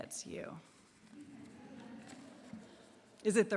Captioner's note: laughter